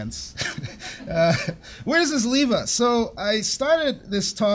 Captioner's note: laughs